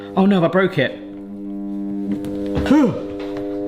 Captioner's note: can opener continues buzzing